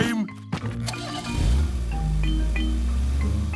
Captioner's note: engine starting